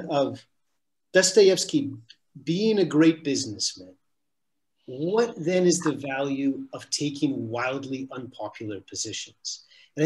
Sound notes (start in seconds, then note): none